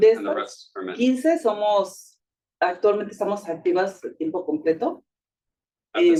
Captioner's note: speaking Spanish